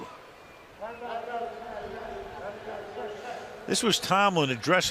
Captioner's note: pa announcement